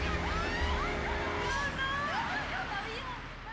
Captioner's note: screaming